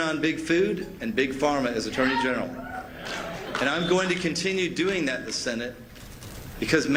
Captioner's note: applause